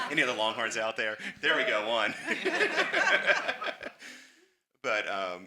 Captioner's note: everyone laughs